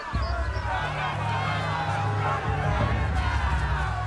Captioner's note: yelling